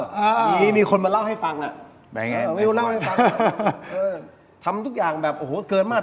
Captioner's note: laughs